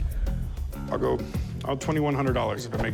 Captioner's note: none